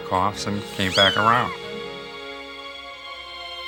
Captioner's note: kitten mewls; heartwarming music